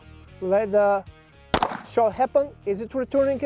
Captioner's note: gun pops